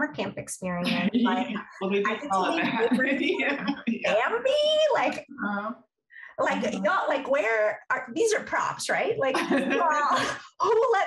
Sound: laughter

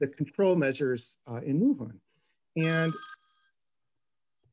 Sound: bell ringing

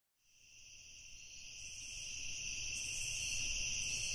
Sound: crickets chirp

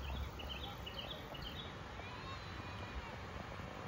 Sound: birds chirping

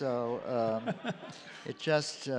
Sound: chuckles

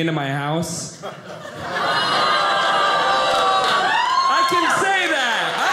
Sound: audience laughing

